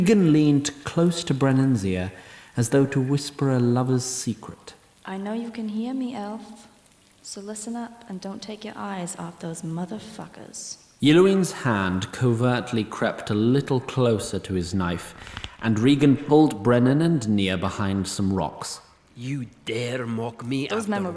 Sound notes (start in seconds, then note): 4.1 whispers